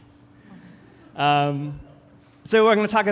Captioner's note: audience chuckling